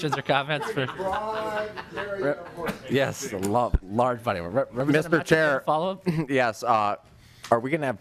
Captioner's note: laughing